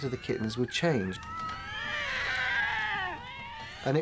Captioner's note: kittens mewling